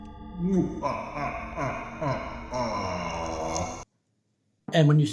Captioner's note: boss laughter